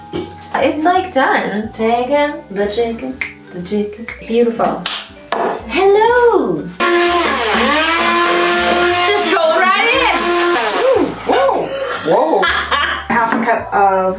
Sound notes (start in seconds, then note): 6.8 loud whirring; 11.2 laughs